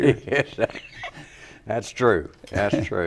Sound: laugh

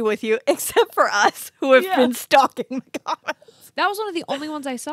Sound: laughs

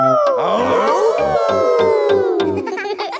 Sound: all howling; howling

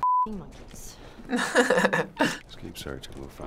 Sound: chuckles

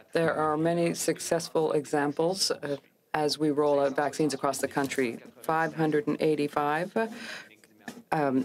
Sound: speaking french

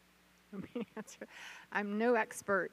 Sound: chuckles

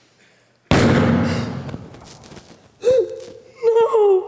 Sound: loud banging

